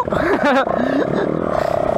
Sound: laughs

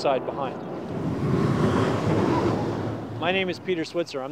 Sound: roller coaster car whooshes

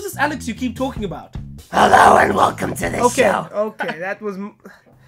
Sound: scary voice

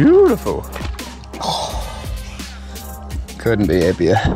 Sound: sighs

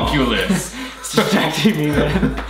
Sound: laughs

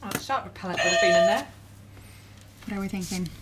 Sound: clang

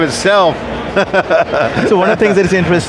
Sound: laughs

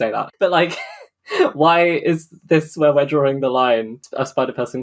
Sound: laughs

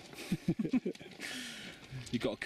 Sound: both laugh

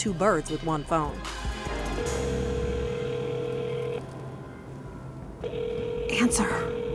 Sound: line ringing

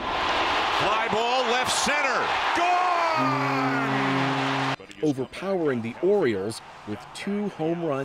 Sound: cheers and Applause

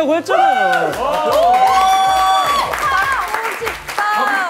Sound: forced enthusiasm

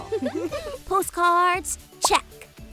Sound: both giggling

